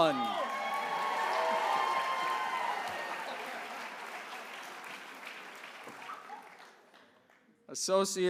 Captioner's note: applause